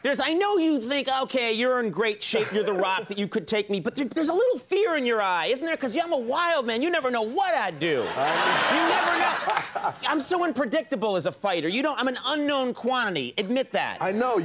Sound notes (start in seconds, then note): 7.8 audience laughs